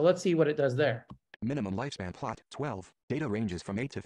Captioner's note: voiceover